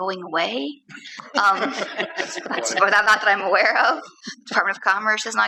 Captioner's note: laughter